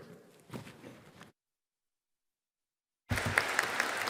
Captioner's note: audience applauding